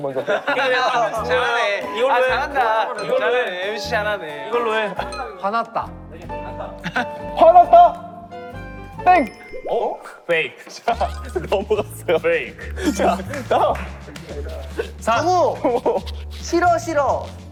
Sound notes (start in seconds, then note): 10.6 haha